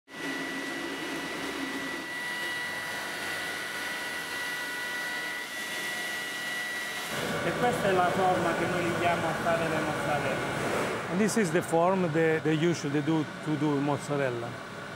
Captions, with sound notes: (machine whirring) >> (speaking Italian). >> (with Italian accent) This is the form that you should do to do mozzarella.